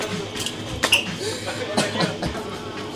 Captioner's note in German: Hysterical sobbing